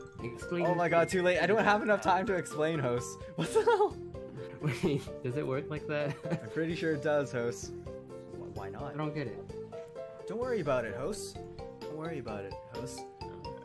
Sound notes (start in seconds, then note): 3.4 laughing; 3.4 laughs